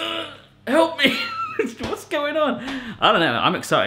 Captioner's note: laughs